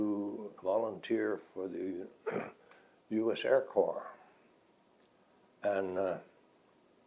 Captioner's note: clears throat